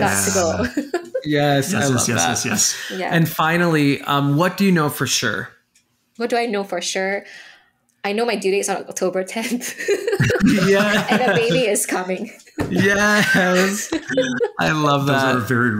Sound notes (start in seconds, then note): 0.1 chuckling; 9.7 laughing loudly; 12.6 giggling